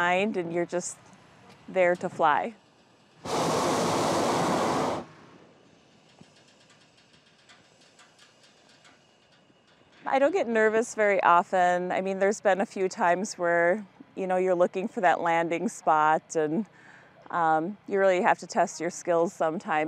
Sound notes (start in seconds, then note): 3.2 air blowing; 6.3 burner ticking